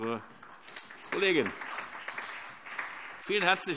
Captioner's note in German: Allgemeiner Beifall